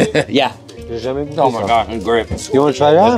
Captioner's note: laughs; speaking French